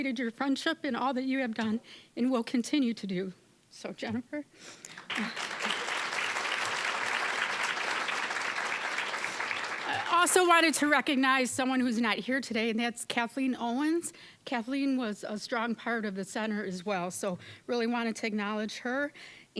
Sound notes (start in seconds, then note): 3.8 crying; 4.9 applause